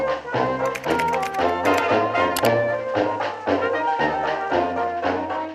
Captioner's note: computer keyboard clacking